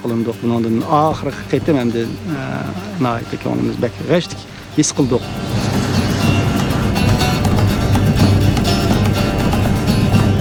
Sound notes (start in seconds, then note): 5.5 airplane engine whizzing